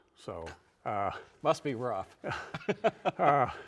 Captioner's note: chuckles